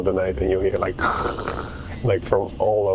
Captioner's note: snoring sound